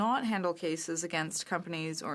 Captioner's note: speaking French